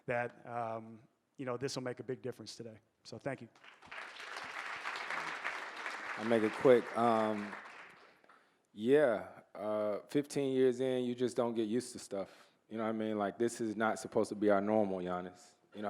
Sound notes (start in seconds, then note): 3.6 audience applauding